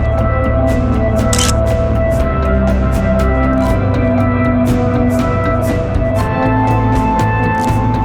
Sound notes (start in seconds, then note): 1.3 photo Click